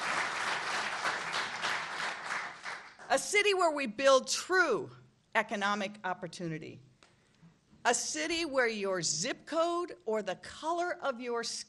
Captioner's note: applause